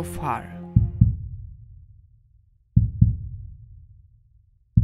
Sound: heart beating

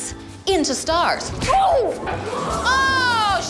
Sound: crowd gasps

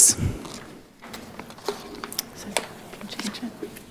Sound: whispering

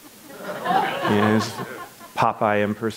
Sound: audience laughs

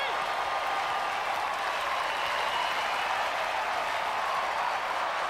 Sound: crowd cheering

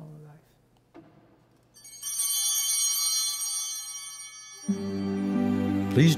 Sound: chimes ringing

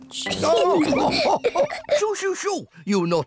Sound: all laugh

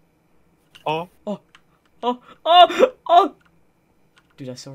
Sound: intense gasping

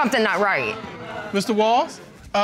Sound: audience exclaims

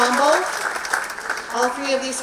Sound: applause

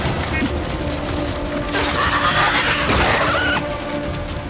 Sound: screams

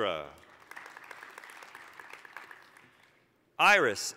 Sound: applause

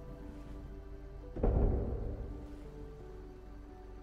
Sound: door Slams

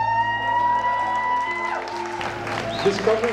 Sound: people cheer

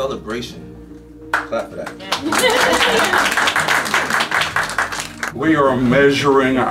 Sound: applause

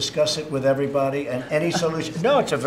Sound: laughter

